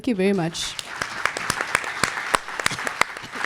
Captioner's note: applause